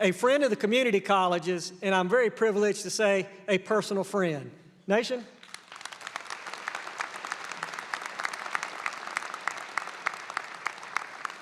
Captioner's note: applause